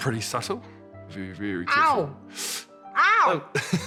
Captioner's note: sucks air; chuckles